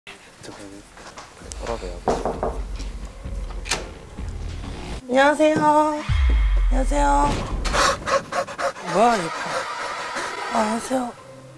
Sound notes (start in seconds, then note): 2.0 knock x3; 8.2 surprised laughter